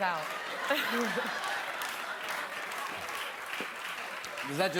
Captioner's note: laughter continues